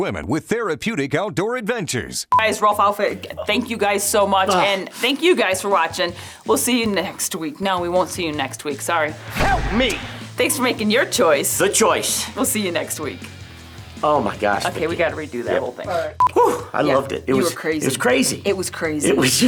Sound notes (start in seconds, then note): 16.8 exclaiming in excitement